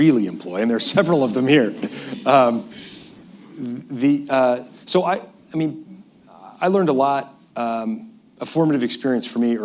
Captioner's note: laughs